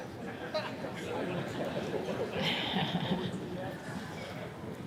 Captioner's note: group laughing